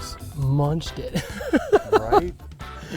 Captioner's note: laughing